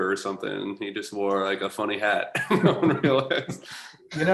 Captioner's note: laughter